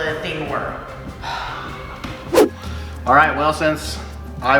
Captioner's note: sighs